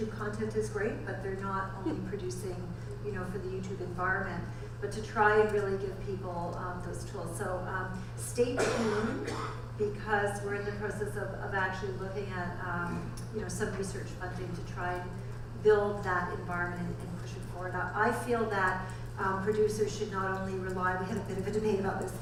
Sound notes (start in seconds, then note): 8.6 audience member coughs